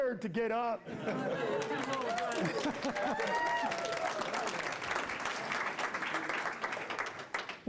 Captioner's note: applause